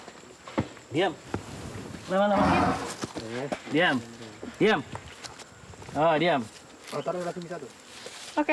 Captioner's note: speaking in foreign language